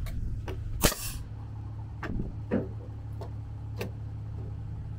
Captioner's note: nail gun firing